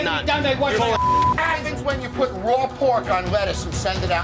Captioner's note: beep